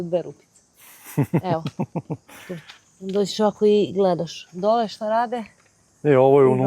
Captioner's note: laughs